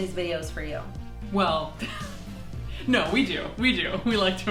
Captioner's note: laughing